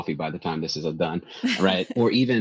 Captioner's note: laughs